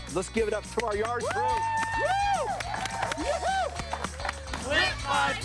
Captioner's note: clapping and cheering